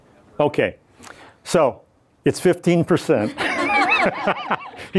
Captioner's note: laughs